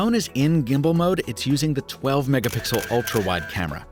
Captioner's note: camera frame clicks